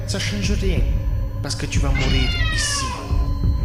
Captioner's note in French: Miaulement